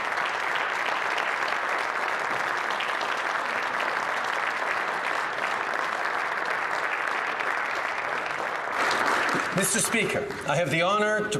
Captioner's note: applause